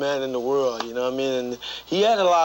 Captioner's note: hands clapping